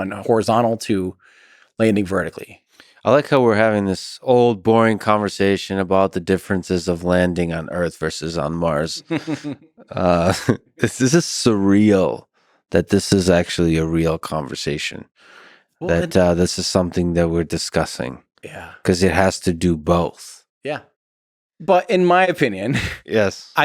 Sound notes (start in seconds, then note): 8.7 Lex laughs; 8.7 Tim laughs